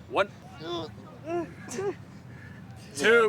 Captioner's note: students grunting